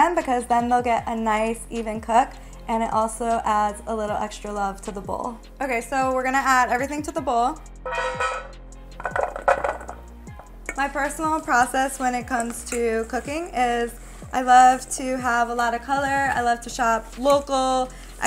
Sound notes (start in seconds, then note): 7.9 vegetables tapping